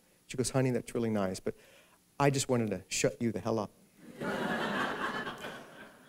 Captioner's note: laughter